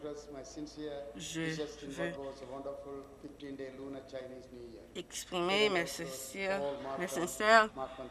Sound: speaking Alternate Language

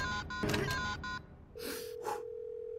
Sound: breath

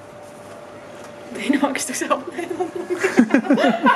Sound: laughter

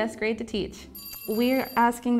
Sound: bell ringing

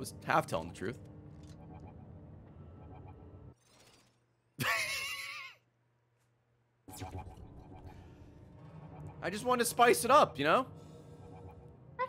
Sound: laughs

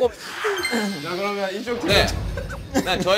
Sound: laughs all the time

